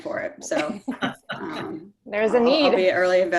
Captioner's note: panel laughs